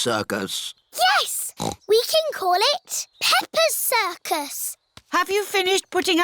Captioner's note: snorts